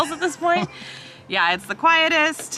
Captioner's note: chuckles